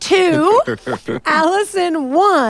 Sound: tWitch laughing

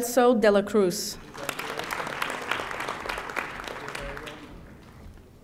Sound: audience applauding

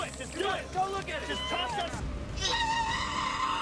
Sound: men chattering; woman screaming; woman shrieking

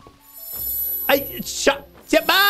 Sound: sparkle noise

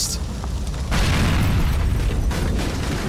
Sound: explosion

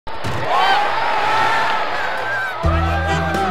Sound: group cheers

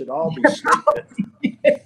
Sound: laughing

